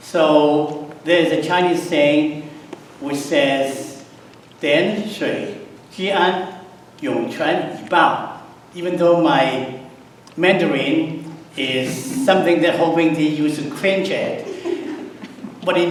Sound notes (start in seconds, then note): 4.5 speaks in Mandarin; 14.3 audience chuckles